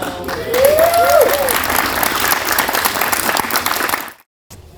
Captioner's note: people clapping